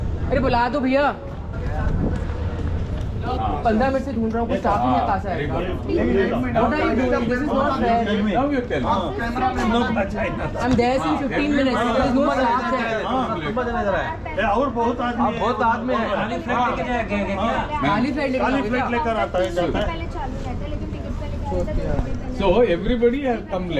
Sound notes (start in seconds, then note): 6.0 people chatter; 13.4 chatter continues